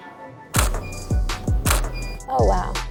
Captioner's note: camera shutter clicking